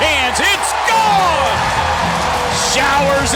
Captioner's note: crowd cheers